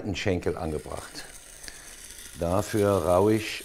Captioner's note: scratching noise